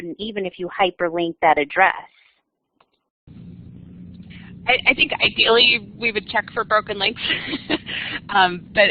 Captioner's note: laughter